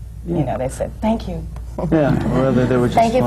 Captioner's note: laughter